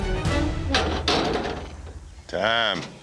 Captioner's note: gates close